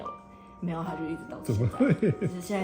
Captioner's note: laugh